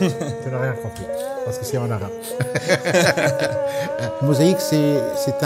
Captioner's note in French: rires